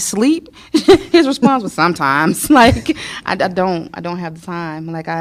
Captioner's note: laughter